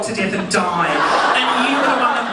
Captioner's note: audience laughing